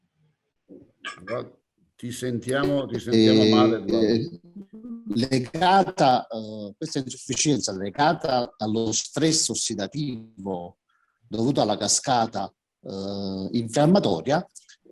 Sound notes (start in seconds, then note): 5.2 sound interference